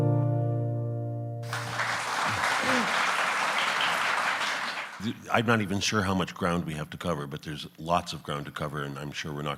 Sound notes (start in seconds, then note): 1.4 audience applauds